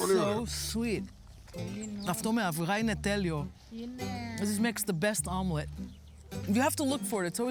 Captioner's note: speaking in greek